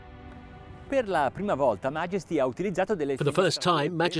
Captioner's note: speaks in foreign language